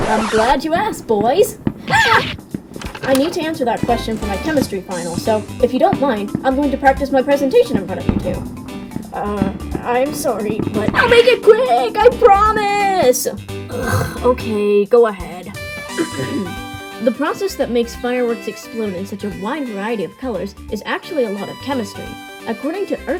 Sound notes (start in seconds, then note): 13.7 ahem; 13.7 scoff